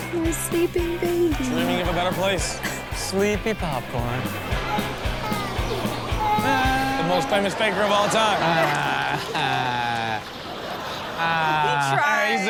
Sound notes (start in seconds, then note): 4.2 crowd laughs; 6.0 kid cries; 7.0 fake cries; 10.7 crowd laughs